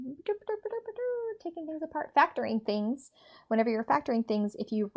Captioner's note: makes silly noises